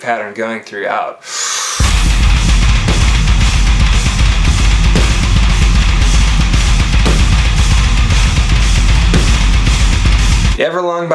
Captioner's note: exhale, big inhale which cuts out into the groove